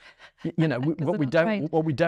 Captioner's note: laughs